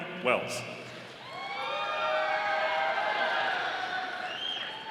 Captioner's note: audience applauding